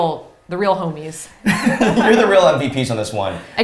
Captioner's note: both laughs